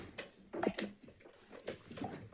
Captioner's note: gavel bangs